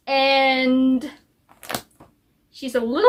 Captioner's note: flips book pages